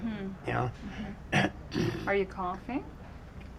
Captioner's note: clears Throat